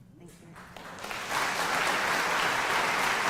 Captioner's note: applause